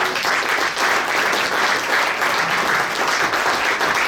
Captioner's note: audience applauds